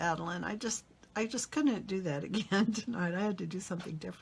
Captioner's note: laughs